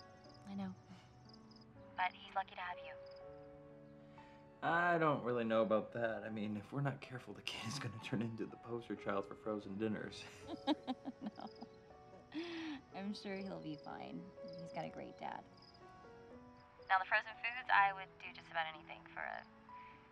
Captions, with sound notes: I know. But he's lucky to have you. I don't really know about that. I mean, If we're not careful the kid's going to turn into the poster child for frozen dinners. [laughing] No, I'm sure he'll be fine. He's got a great dad. Now, the frozen foods, I would do just about anything for a